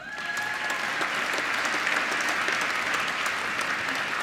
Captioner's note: applause